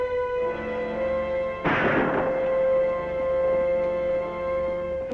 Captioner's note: gunshots